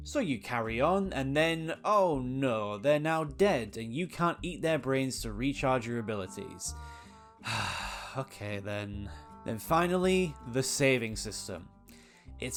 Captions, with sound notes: So you carry on and then, oh no they're now dead and you can't eat their brains to recharge your abilities. *Sigh* Okay then... Then finally, the saving system.